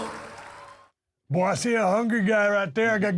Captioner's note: crowd cheering